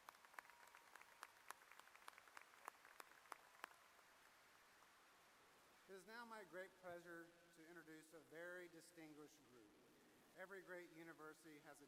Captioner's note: applause